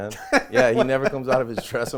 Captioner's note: laughs